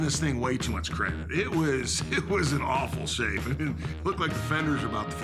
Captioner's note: laugh